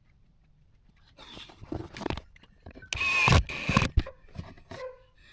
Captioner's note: drill whirring